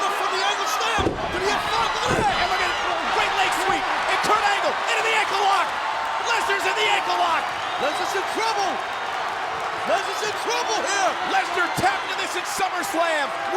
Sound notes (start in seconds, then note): 9.0 audience cheering and clapping